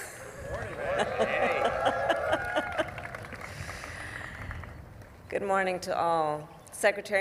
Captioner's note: applause